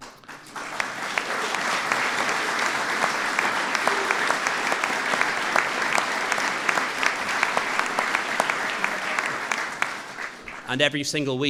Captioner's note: applause